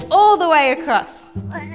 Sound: laughs

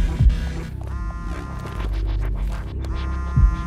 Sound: cell phone vibrating

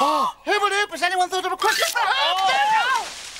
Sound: gasps; fast talking; yelling

